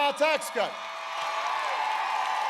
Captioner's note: applause